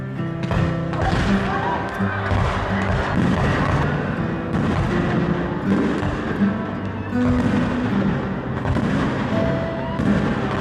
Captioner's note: fireworks; boom